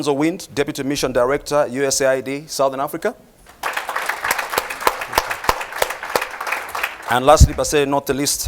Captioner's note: applause